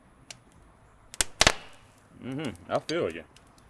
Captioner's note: grill crackles